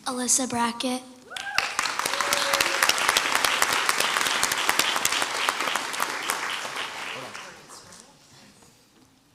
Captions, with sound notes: - Alyssa Bracket. (crowd cheers and applauds)